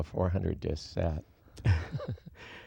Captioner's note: laughs